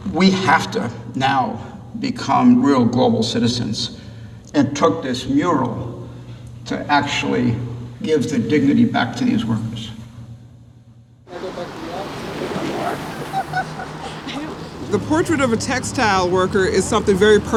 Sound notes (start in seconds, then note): 11.3 chatter